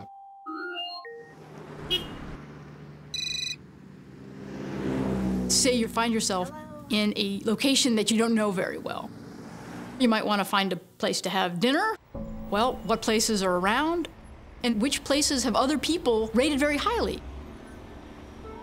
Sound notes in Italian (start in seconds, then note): 0.2 suono elettronico; 1.6 suono di clacson; 3.1 squilli di telefono